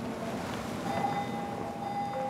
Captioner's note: uneasy beeping